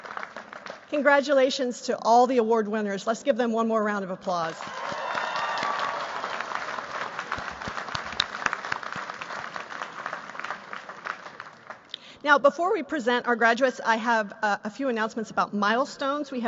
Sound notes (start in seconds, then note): 4.5 applause